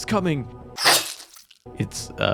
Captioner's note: squishing Sound